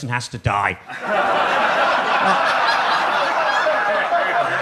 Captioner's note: audience laughs